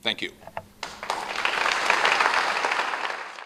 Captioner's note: clapping